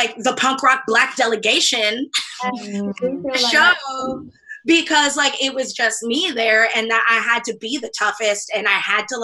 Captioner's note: laughs